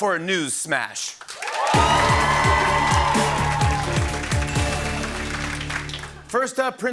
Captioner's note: cheering and applause